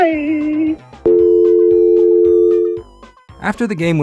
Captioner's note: dial Tone